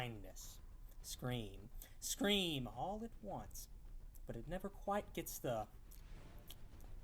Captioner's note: licks lips